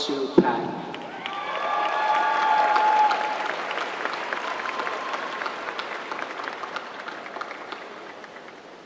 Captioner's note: applause